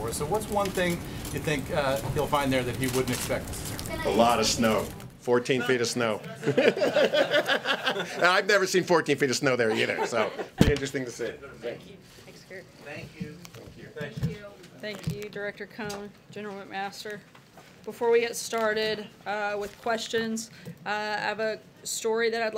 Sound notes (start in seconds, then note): 6.3 laughter